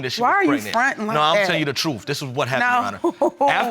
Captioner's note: laughs